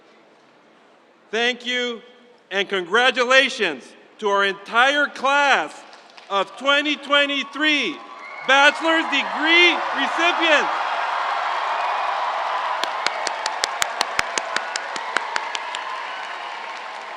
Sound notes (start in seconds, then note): 10.8 crowd cheering